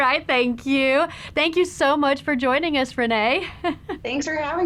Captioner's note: laughs